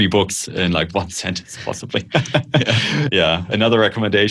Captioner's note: laughter